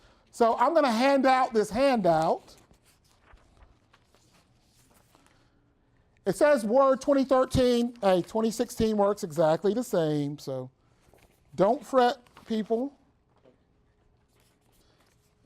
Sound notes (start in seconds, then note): 1.8 papers shuffling